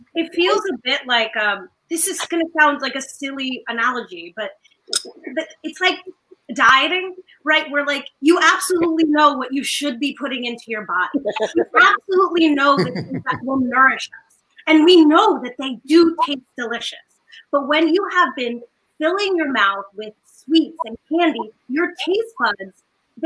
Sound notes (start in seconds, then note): 12.7 giggling; 12.7 laughs